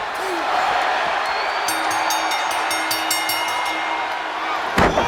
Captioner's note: crowd cheering; bell dinging; bodies slamming